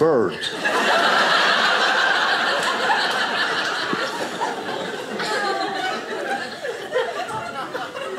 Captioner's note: audience laughing